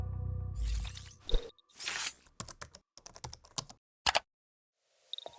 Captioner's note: keyboard clicks